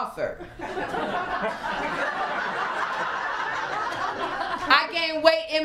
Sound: laughter

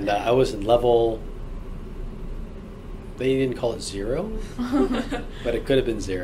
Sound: laugh

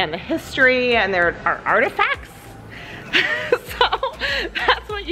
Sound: chuckles

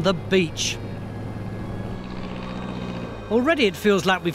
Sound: airplane engine purring; gentle music

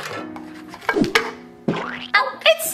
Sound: pancake splatters

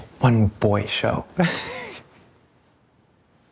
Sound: laughs

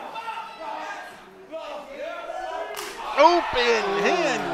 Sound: crowd shouting

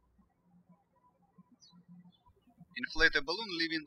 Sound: birds chirping

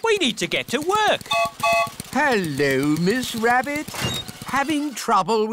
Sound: gertrude's whistle blows

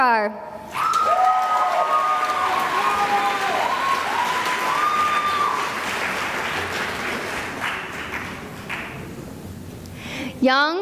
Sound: cheering and applause

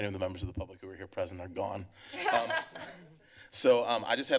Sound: laughter

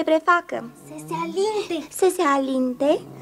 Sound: whispers

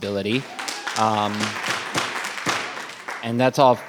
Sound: audience applauding

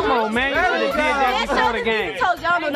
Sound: crowd

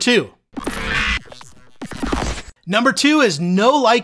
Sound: electricity squawking

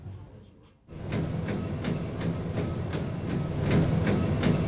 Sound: treadmill noise

